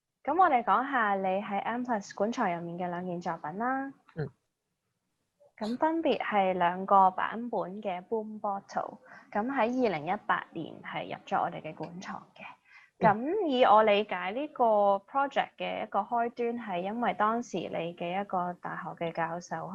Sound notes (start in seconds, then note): 3.9 makes a sound of agreement